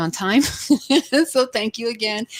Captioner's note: laughs